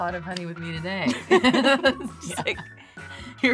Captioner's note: laughing